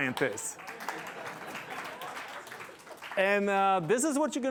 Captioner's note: applause